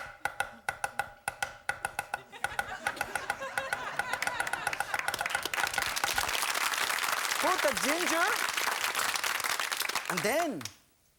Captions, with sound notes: (audience laughing and clapping) Put the ginger and then